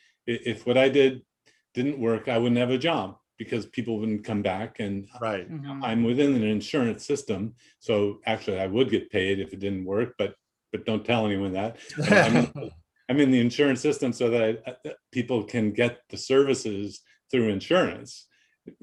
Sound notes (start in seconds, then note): 11.8 laughing